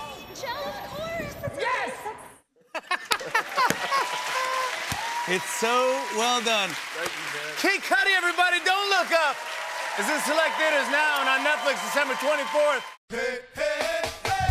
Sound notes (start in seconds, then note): 2.5 cheers and applause; 2.7 laughing